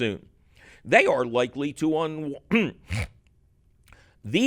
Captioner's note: clears throat